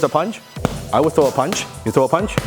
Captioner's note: gloves hitting hands